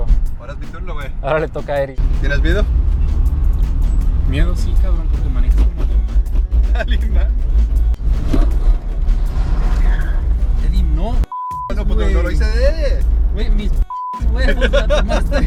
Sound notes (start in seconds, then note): 7.2 laughs; 14.2 laughs